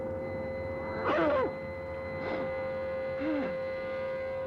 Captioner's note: groaning